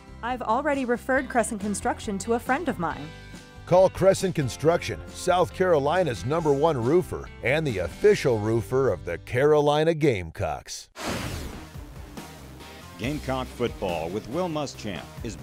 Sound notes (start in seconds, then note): 3.7 voiceover; 11.0 whooshing